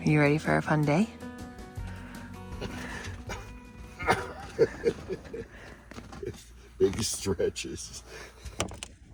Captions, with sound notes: Are you ready for a fun day? - (laughing) It's big stretches.